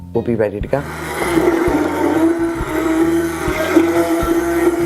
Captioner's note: blender whirring